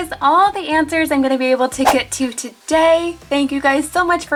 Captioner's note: air whooshing